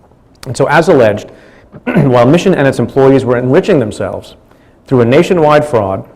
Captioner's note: clears throat